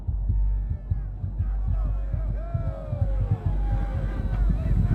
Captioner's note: cheering